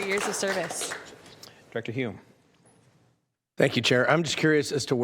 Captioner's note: applause